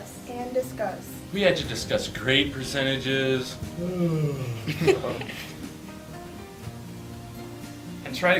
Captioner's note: yawns